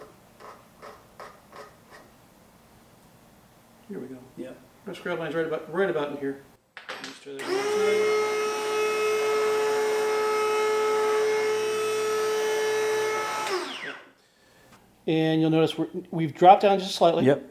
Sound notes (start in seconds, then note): 0.2 scraping; 7.4 machine whirring